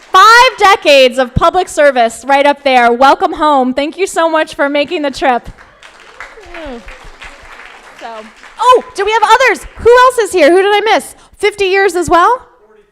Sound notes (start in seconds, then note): 5.4 crowd applauding